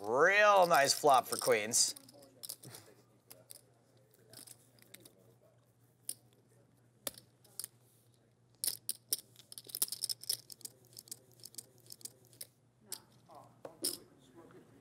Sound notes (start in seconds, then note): 2.5 chips clattering